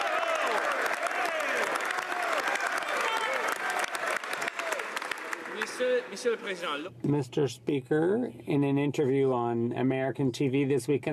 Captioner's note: some Applause